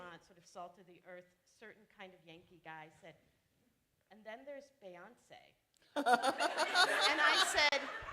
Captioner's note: laughter